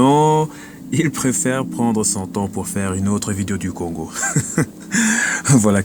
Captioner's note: laughing